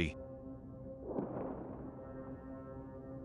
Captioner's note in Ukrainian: вибух прильоту артилерії